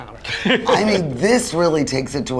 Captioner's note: laughing